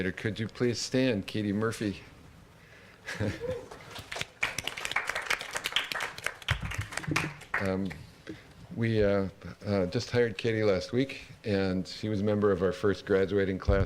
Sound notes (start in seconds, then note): 3.1 laughs; 3.6 applause